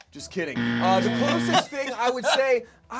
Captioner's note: loud buzzer